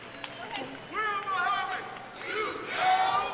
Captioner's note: shouting in audience